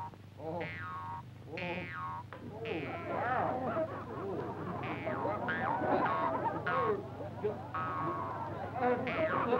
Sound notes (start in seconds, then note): 3.5 audience laughs